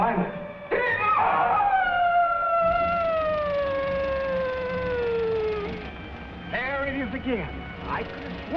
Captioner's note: screeches